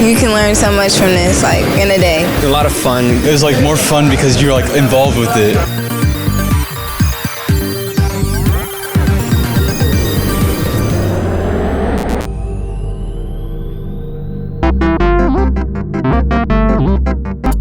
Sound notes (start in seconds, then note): 5.6 upbeat music; 11.1 graphics roar; 14.6 whimsical music